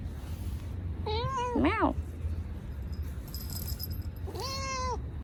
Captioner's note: cat meows; cat's bell jingles